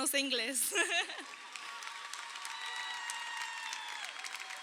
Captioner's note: crowd cheering